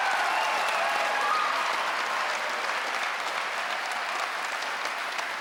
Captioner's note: audience cheering